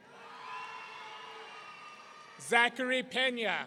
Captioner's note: audience cheering